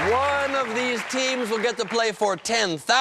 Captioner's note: cheers and applause